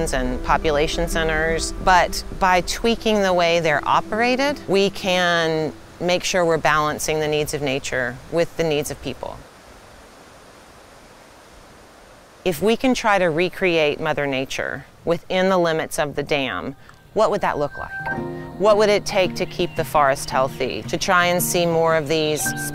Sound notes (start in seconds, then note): 9.8 water rushing